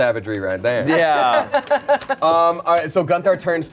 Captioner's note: everyone laughs